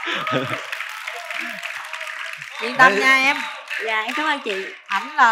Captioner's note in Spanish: Aplaudir